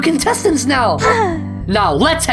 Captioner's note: release of held breath